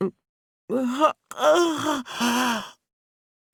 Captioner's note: yawn